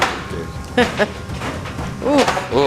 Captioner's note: laughs